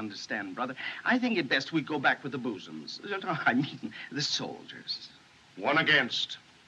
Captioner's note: stammers